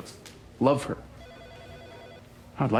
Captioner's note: phone ringing